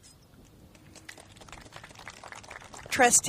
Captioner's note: applauding